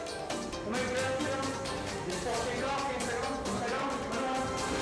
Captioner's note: gunman speaking French